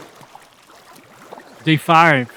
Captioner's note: water splashing